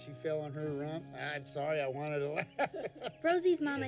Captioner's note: laughs